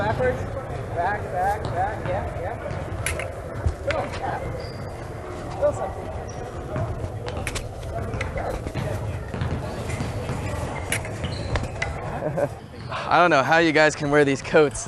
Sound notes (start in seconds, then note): 5.9 swords clashing, shoe soles squeaking